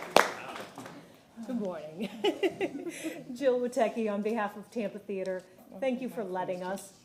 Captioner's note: applause